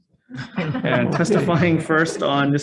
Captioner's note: crowd laughs